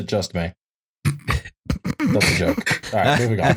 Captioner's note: barely contains a laugh; laughter